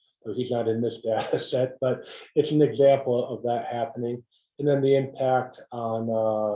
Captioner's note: laugh